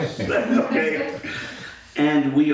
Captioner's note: all laughing